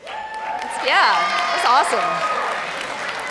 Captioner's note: audience cheers